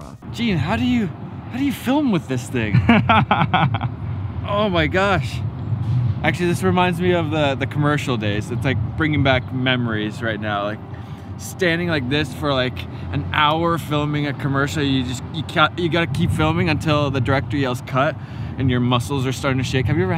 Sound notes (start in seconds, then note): 2.6 laughs